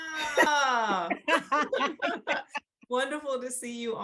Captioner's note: both laugh